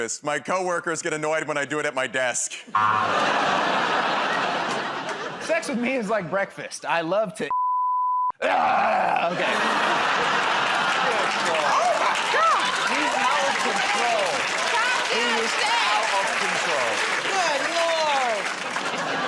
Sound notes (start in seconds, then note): 2.7 buzzer; 8.4 grunts